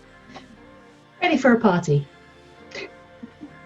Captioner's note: giggles